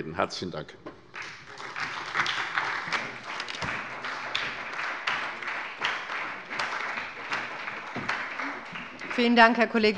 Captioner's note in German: Beifall bei der SPD